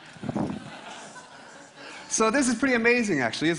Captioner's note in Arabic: ضحك